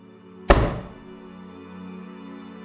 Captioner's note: tap on the door